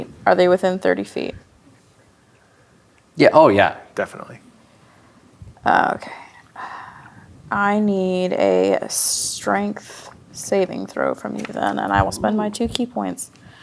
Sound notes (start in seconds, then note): 6.5 sighs; 13.4 gasps